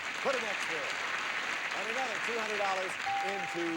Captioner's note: audience applauding